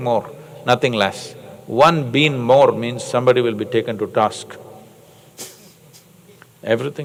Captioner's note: laughs